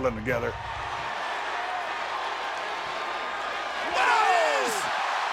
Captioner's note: audience cheering and chattering